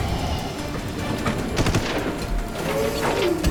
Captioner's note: gunshot